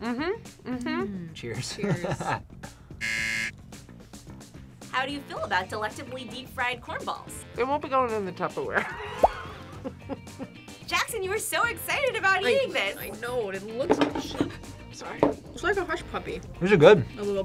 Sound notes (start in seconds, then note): 1.8 laughs; 3.0 buzzer rings; 8.8 laughs